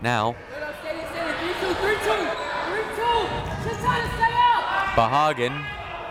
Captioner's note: crowd members shouting